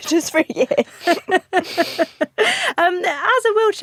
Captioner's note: both laugh